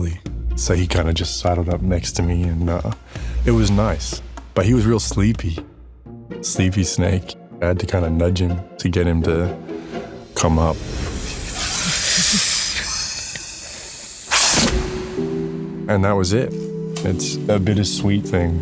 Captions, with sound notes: So he kind of just saddled up next to me, and it was nice. But he was real sleepy. Sleepy snake. I had to kind of nudge him to get him to come up. -(SNAKE HISSING) -(SOBBING QUIETLY) (SNAKE SNARLS) And that was it. It's a bittersweet thing.